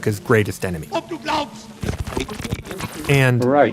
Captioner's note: speaking German